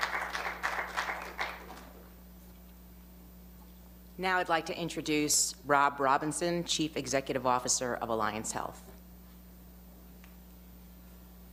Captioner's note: applause